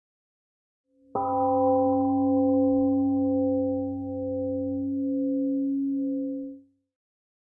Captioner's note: temple gong rings and fades